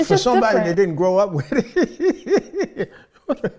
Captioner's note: laughing